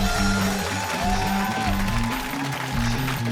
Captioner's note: cheering